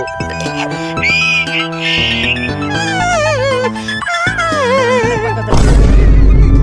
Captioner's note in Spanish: llora epicamente